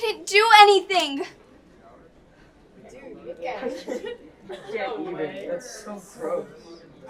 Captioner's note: children whispering and laughing in the background